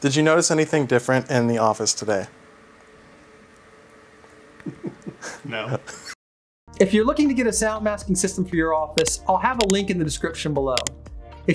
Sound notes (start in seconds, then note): 4.7 laughing